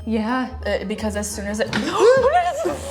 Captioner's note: gasps